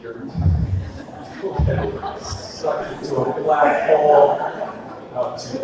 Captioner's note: audience laughter